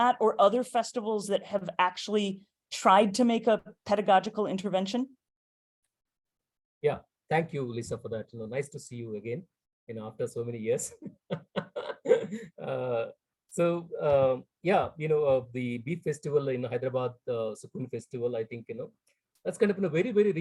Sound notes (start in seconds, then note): 11.0 laughs